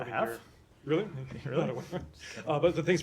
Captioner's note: laughter